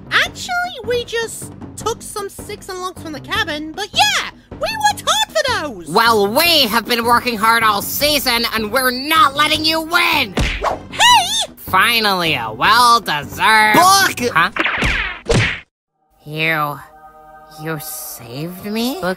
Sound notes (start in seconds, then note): 10.4 punch, whoosh; 14.6 dash, double smack sound; 16.0 angelic choir